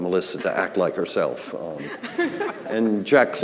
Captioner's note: laughing